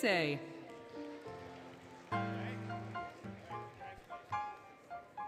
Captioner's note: applause, Cheering, Music